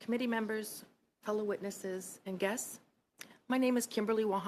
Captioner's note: speaking French